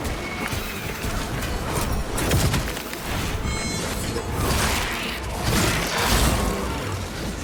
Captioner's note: gunfire